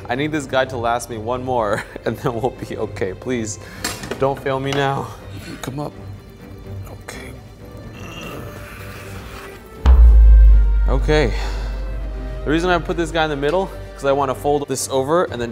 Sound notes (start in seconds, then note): 8.0 grunts